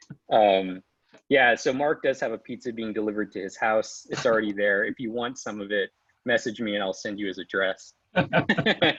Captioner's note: laughs; both laugh